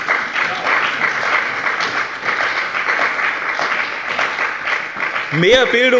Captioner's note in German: Beifall bei dem BÜNDNIS 90/DIE GRÜNEN und der CDU